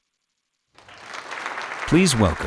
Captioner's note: applause